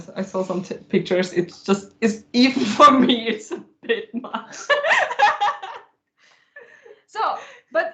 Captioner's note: laughter